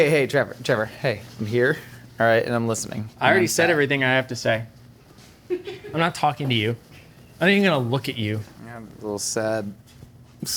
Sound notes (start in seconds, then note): 5.4 crew member laughing